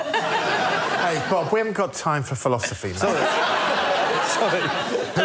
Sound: laughter; laughter

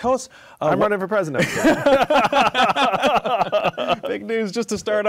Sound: laughter

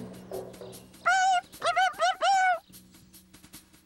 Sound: chirping

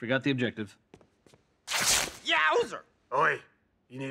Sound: beard rips

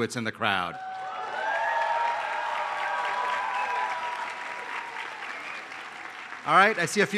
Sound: applause

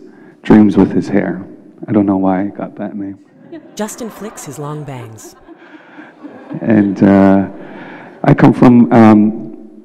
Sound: laughter - flicks his long bangs

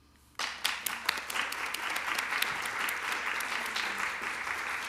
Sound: applause

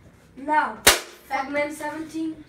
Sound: Nerf gun fires

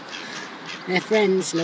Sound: sound of ducks and getting louder

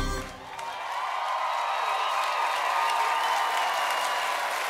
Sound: audience cheers

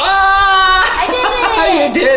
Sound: yells

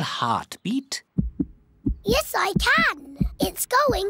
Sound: heart thumps

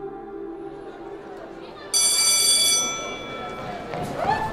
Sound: bell Ringing

